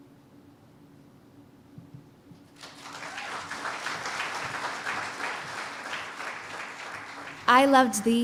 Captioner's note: cheers and applause